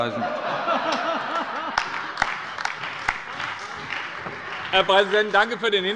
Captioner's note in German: Heiterkeit bei allen Fraktionen - Vereinzelt Beifall